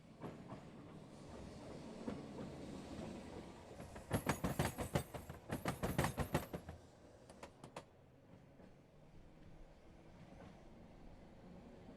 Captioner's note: the sound of a train moving